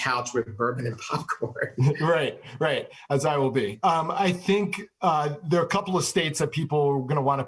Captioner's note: laughs